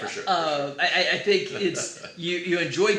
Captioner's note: laughs